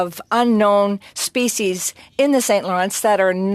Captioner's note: speaking French